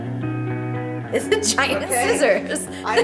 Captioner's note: laughing